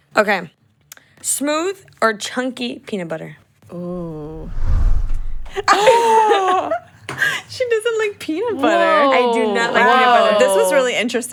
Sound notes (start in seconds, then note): 3.9 air whooshes; 5.6 group laughs